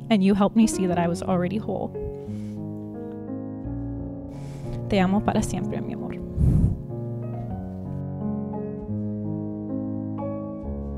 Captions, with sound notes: and you helped me see that I was already whole. (foreign language) (soft music)